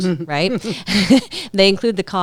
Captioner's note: laughing